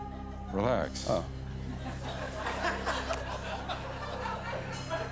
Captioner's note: laughter